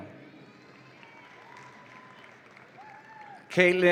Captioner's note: audience applauds and cheers